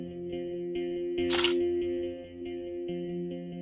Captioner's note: camera shutter sound